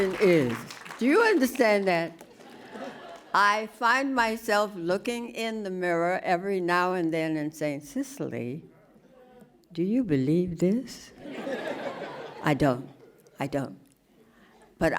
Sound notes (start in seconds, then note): 11.2 laughing